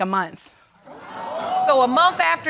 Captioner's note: audience exclaiming